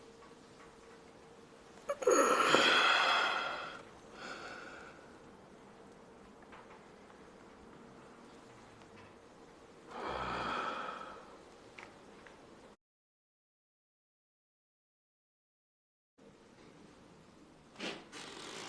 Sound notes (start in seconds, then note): 1.9 sighs heavily; 9.9 exhales; 17.2 floor creaks, footsteps shuffle slightly